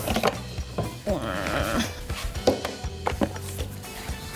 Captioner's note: groans